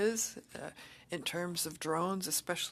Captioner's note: speaking French